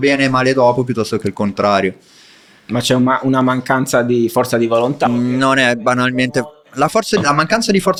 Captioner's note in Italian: sbuffare